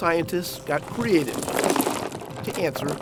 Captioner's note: oysters clattering